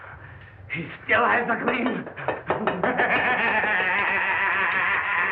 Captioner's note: maniacal Laughter